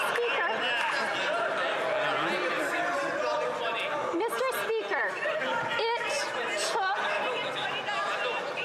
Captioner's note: some Applause